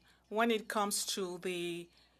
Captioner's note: speaking in French